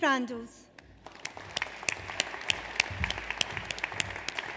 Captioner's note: audience applauds